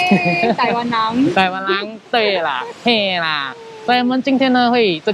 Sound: in Taiwan language; in Taiwan language

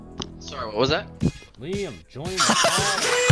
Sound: laughing

